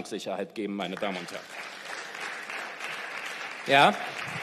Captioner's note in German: Beifall